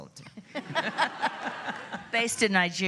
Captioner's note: laughs